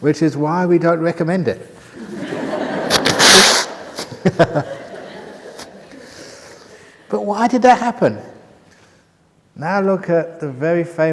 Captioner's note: laughter